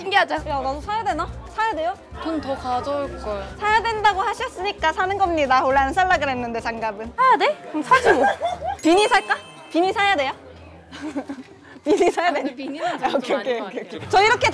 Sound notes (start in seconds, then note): 8.7 bell chiming